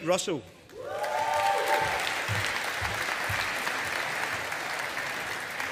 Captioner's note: audience applauding